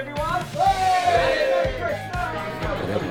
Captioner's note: cheering